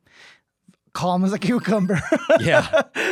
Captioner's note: laughing